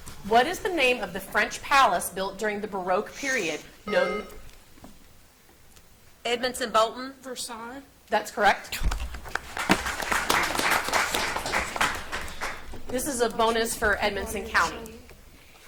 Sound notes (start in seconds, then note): 3.8 buzzer beeps; 9.2 audience applauds